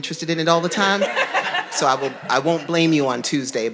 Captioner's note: audience laughing